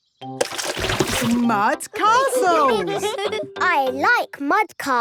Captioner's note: all giggling